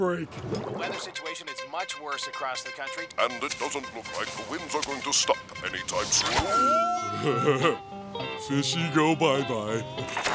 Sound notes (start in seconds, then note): 6.4 laughing